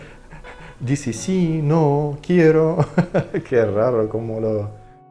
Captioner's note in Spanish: ríe